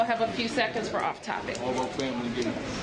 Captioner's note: background conversation